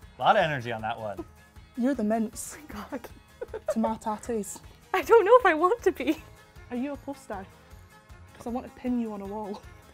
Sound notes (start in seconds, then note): 2.6 giggles; 2.6 laughs